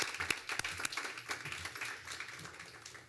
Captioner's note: applause